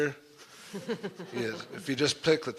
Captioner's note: laughter